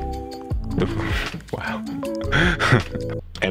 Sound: laughs

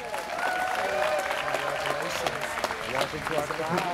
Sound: students cheering

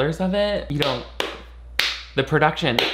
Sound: Nick claps

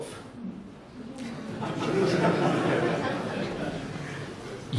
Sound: laughter

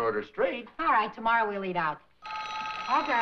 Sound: phone rings

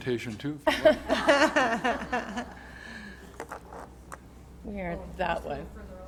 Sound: laughter

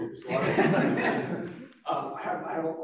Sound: laughter

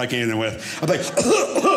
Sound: coughs

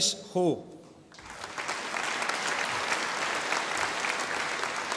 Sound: audience applauding

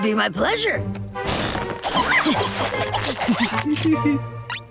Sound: giggling

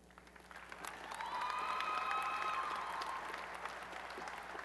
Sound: applause and cheering

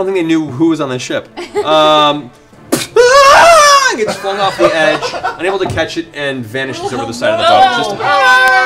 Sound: falling scream

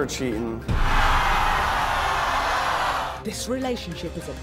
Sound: audience jeering

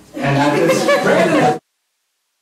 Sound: laughter

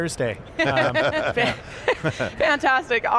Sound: panelists laughing

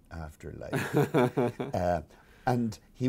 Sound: laughs

